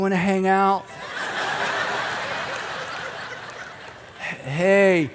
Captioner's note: audience laughing